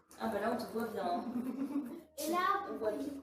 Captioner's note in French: rire